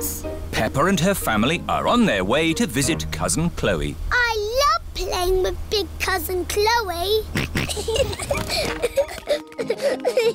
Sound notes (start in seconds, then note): 7.3 kids giggling; 7.4 snorts